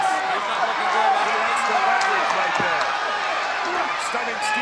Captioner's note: presenter speaking faintly off mic